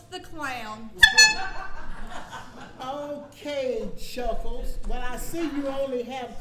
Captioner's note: horn honks